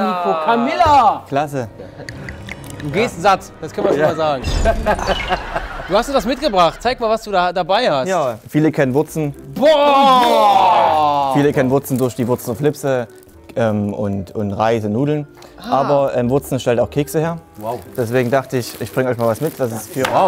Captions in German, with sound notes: Camilla! - Klasse. (Schluckgeräusche) Du gehst satt. Das können wir schon mal sagen. (Lachen) Du hast uns was mitgebracht, zeig, was du dabei hast. Viele kennen Wurzen ... - Boah! Viele kennen Wurzen durch die Wurzener Flipse und Reis und Nudeln. Ah! Aber Wurzen stellt auch Kekse her. - Wow. Daher dachte ich, ich bring euch was mit.